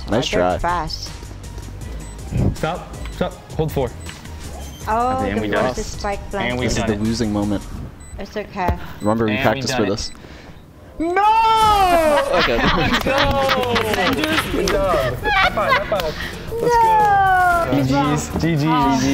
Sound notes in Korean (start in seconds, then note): 11.7 웃음; 13.4 박수